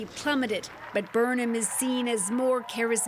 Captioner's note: applause